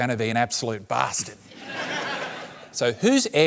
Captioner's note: laughter